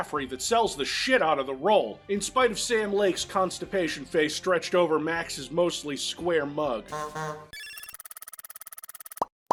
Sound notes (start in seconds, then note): 6.9 honk honk